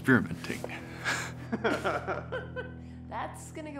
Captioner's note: laughing